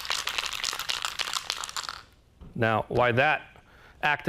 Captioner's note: spray can rattles